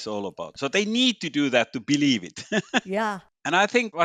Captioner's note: laughs